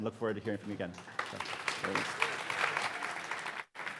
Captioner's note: applause